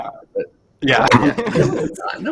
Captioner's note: laughter